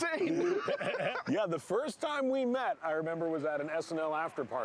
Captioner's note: laughing